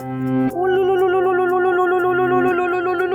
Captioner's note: chanting ululudhvani